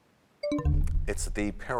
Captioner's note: bell chimes, time expires